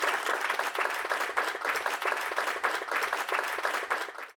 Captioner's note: applause